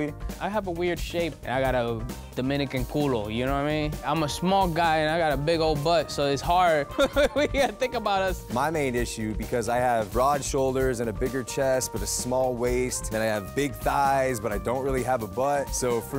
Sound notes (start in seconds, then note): 6.7 laughs